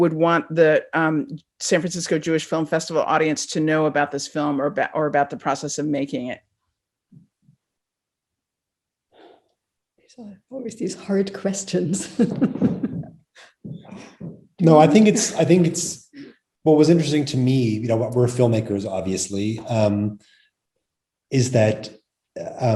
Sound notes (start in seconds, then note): 12.0 chuckles